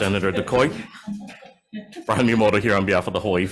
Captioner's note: laughter